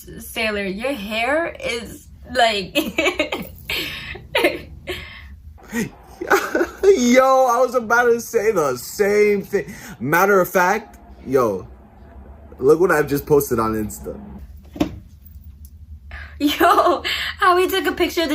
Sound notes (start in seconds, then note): 2.8 giggling